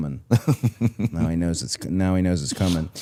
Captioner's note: person on right laughing